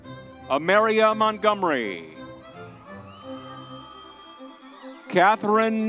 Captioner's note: crowd cheering